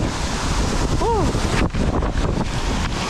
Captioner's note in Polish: odgłos wody